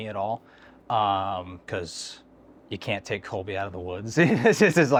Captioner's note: laughing